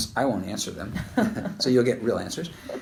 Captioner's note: laughter